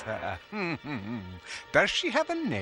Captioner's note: chuckle